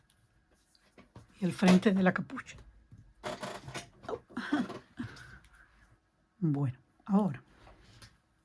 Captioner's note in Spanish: risas